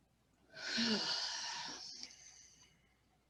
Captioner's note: sigh